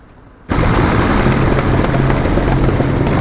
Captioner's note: grinding